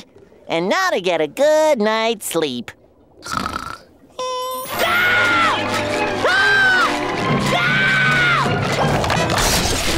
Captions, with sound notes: And now to get a good night's sleep. [snoring] [screaming]